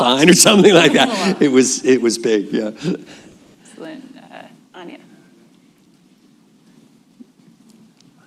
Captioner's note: laughs